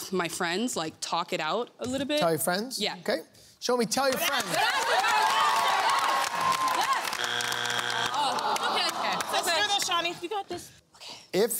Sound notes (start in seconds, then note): 4.1 applause; 7.1 buzzer sounds